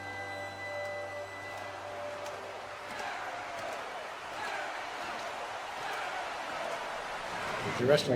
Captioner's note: crowd chants